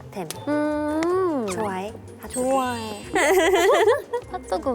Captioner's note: hehe